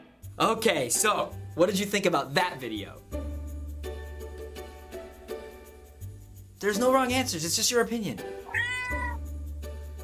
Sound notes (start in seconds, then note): 8.4 meows